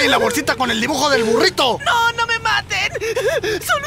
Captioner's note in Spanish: llora